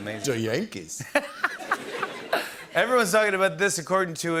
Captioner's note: laughter